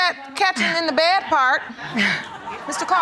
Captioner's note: laughter